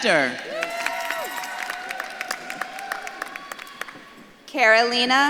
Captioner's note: audience claps and cheers